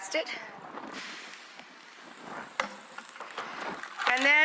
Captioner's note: pan sizzles